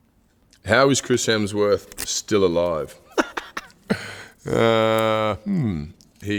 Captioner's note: laughs